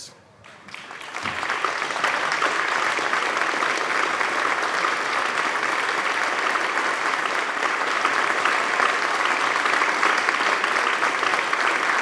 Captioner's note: applause